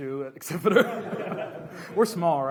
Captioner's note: laughs